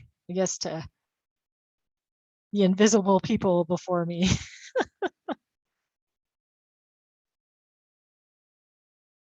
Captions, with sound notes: I guess to the invisible people before me. (laughs)